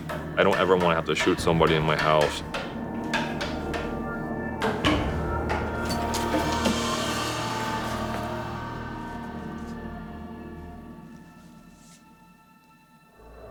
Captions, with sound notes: I don't ever want to have to shoot somebody in my house. (clunking gets louder) (clunking stops)